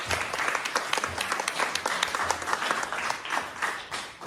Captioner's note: applause